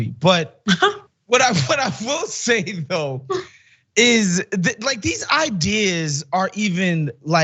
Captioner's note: laugh